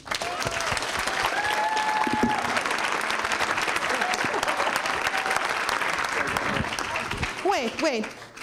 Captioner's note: applause